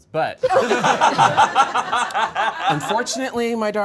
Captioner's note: all laughing